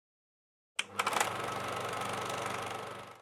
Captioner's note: film projector clicking